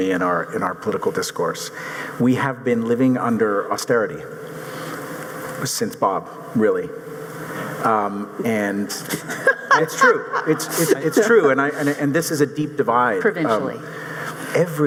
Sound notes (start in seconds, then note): 9.1 audience chuckling